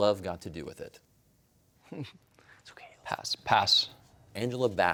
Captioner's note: chuckles